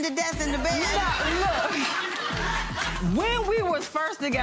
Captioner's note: laughing